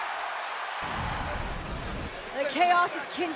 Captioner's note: graphic whooshing